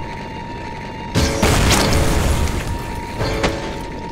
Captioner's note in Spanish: explosión